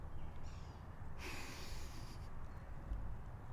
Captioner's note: inhales